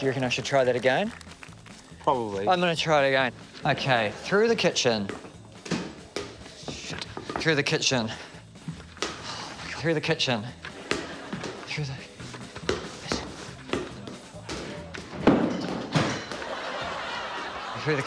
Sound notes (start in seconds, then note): 9.1 sighs; 15.2 clattering, crash!; 16.1 laughter